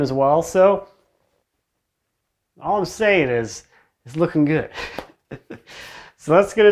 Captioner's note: laughing